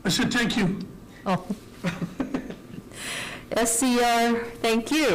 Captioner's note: laughter